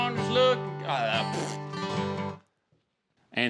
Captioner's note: spits